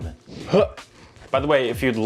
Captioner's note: exclaims